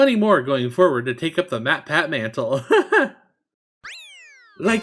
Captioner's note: laughs